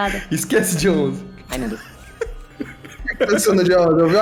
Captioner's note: laughing